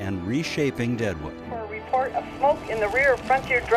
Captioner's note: woman On Radio